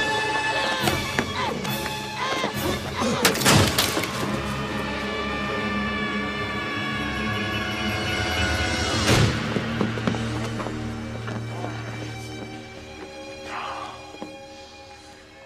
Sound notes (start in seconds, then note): 3.2 wood snaps; 4.1 Julia screaming; 8.7 body thuds